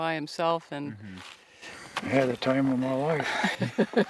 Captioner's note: laughs